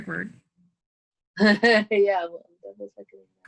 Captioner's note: laughs